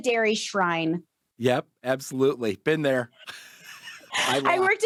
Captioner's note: chuckles